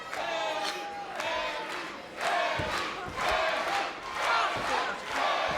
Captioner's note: crowd chanting "Bayley"